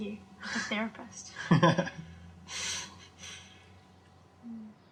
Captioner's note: cameraman laughing